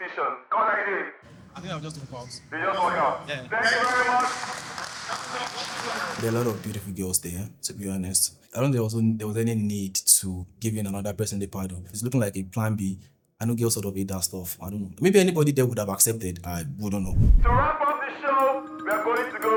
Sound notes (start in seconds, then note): 4.6 audience applauding